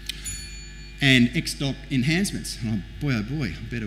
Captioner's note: bell rings